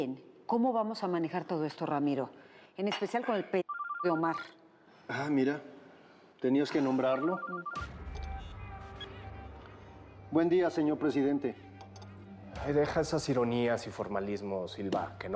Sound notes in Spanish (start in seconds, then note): 3.6 Suena el celular